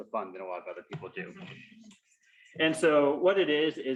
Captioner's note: audience members laugh